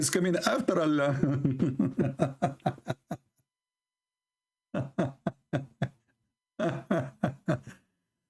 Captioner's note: Ketawa